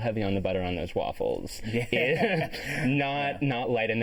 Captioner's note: chuckling